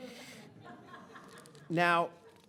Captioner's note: audience laughing